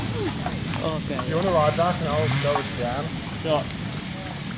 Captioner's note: people chatter